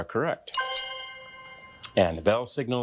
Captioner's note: bell dinging